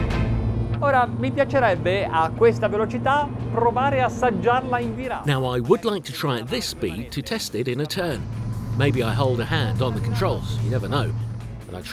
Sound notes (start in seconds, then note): 1.1 speaking in foreign language